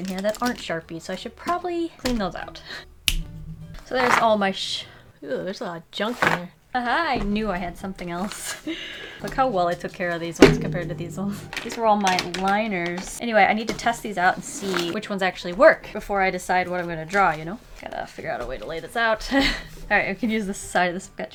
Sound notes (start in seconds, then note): 3.0 snaps fingers